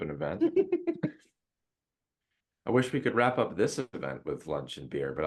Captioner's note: laugh